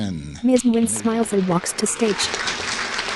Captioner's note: applause